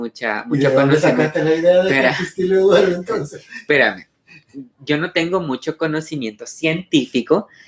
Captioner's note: laughs